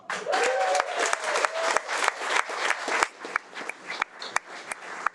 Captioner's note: audience applauding